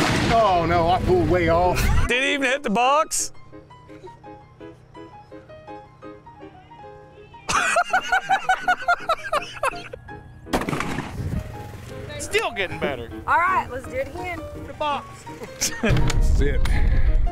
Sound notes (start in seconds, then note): 7.4 laughter; 10.5 gun shot